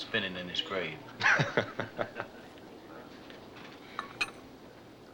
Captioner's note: men laughing